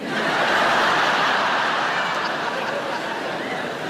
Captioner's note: audience laughing